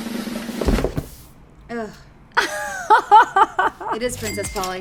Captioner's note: drumroll; laughs